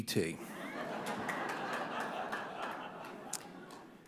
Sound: audience laughing

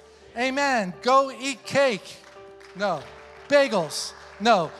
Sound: congregation applauds

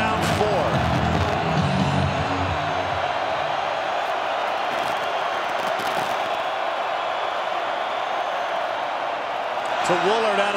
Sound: crowd noise

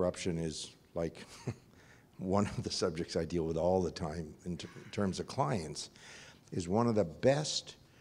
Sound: laugh

